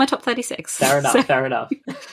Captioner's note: laughs